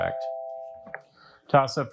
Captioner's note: bell dings